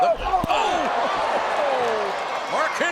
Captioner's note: audience cheers